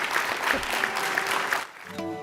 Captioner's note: applause